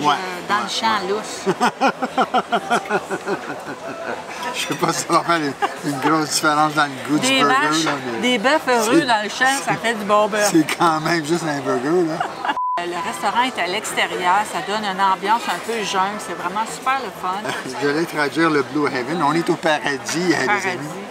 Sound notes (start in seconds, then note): 11.9 laughs